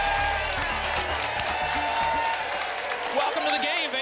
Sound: applause and cheering cont

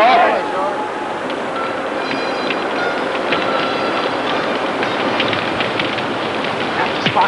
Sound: men agreeing; fire crackling

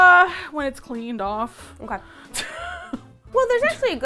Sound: chuckles anxiously

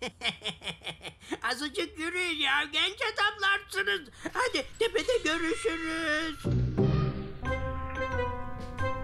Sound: laughs

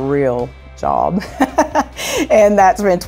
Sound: laughter

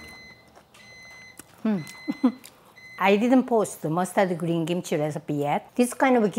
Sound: microwave beeping

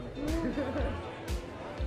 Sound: laughs

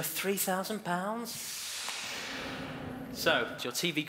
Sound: whooshing

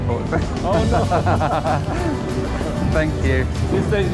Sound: laughs

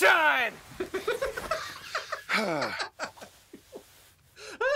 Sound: Rick laughing

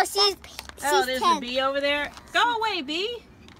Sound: voiceover

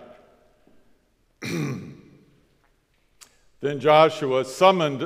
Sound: coughs

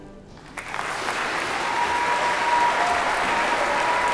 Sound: crowd applauding

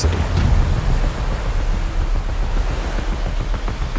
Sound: waves crashing

